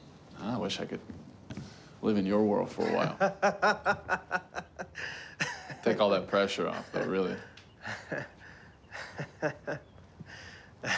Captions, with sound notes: I wish I could live in your world for awhile. (Rufus laughs) Take all that pressure off, though, really. (Rufus chuckles)